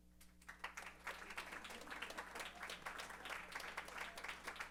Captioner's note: applause